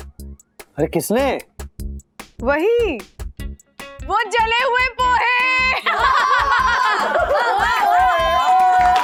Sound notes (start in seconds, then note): 5.7 laughs